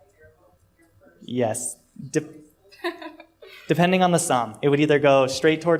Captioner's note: laughter